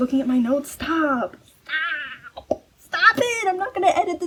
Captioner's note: strained